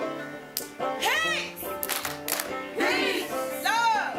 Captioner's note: claps